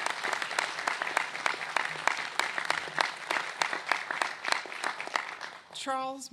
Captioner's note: applause